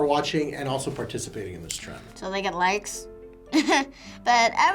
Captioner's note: chuckles